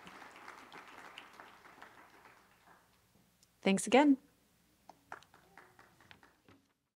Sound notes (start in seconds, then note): 2.4 applause